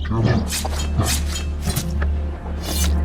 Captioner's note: sword sounds